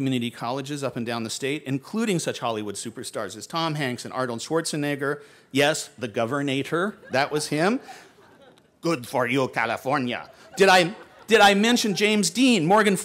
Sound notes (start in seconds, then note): 10.0 laughter